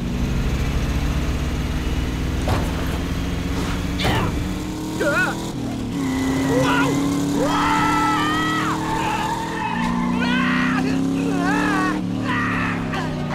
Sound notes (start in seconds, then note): 5.0 grunting; 7.4 screaming; 10.9 grunting